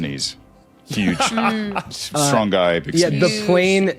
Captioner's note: laughs